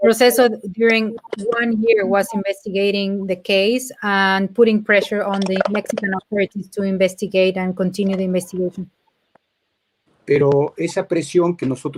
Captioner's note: speaking in Spanish